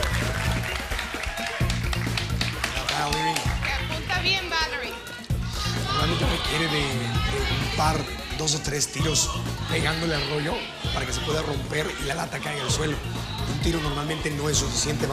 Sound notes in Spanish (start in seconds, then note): 3.4 aplausos